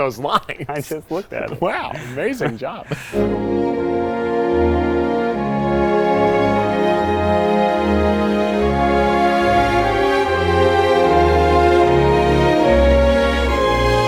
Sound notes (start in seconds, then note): 4.5 snickers; 9.2 eerie music